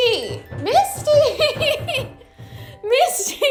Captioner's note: laughs